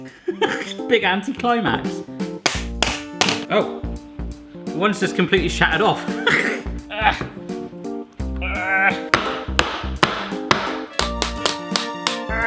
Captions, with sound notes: Big anti-climax. Oh, one's just completely shattered off. (groans)